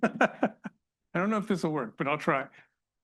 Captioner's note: laughs